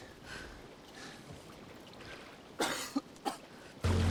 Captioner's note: coughing